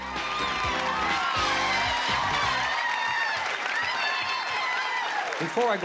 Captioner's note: applause and cheering